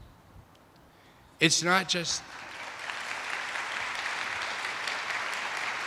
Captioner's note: attendees applauding